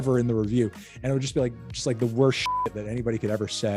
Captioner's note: beep